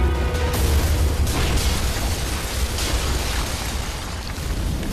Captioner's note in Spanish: Explosión